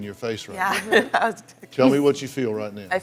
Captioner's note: laughs